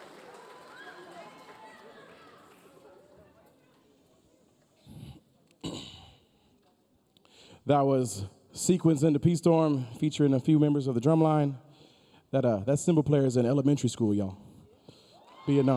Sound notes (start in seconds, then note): 5.6 coughing